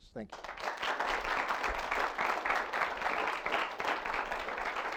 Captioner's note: audience applauds